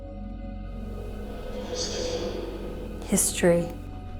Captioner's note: radio noises